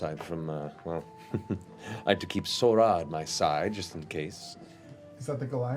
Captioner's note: laughs